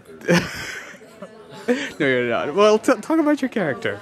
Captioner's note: laugh